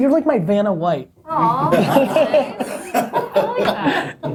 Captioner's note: laughter